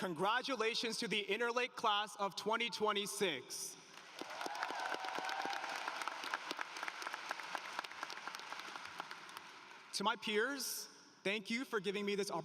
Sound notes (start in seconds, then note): 3.8 applause